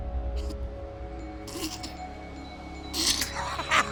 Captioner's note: laughs